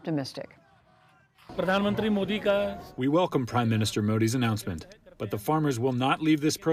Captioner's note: through translator